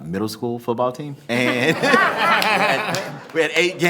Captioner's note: members laughing